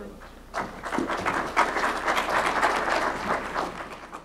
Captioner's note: applause